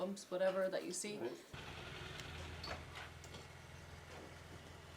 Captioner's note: motorcycles revving